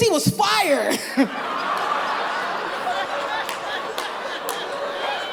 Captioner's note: laughter